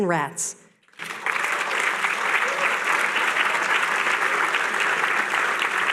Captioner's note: applause